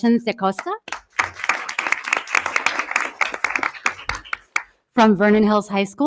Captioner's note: audience applause